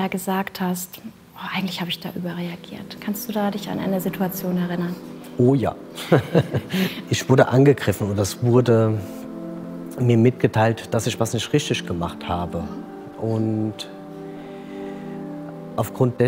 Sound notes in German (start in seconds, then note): 6.0 Lachen